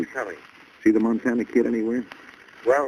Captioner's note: on phone